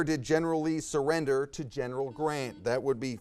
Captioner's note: buzzer buzzes